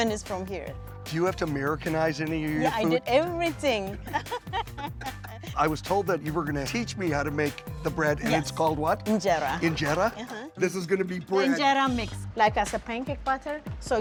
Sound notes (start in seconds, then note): 3.8 laughing